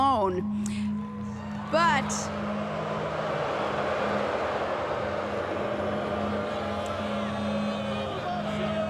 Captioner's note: crowd booing